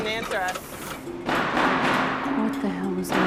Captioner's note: banging